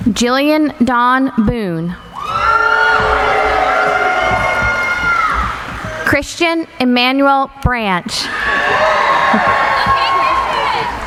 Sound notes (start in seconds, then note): 2.0 cheering; 8.2 cheering